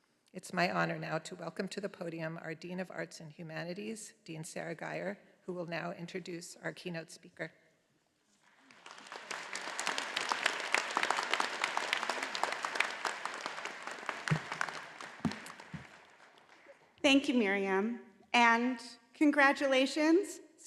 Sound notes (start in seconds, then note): 8.4 all applauding